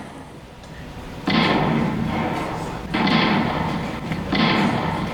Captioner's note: booms of cannon in the distance